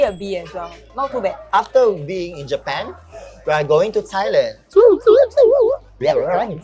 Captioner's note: airplane noises